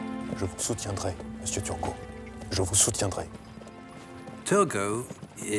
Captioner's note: tense music; Louis XVI speaking in French